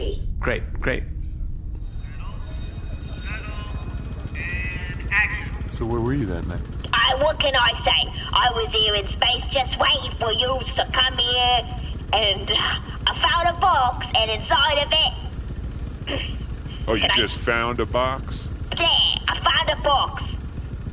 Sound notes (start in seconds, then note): 6.9 terrible yet unplaceable accent; 16.1 clears throat